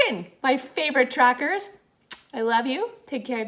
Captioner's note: kisses